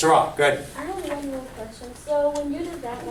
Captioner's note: voiceover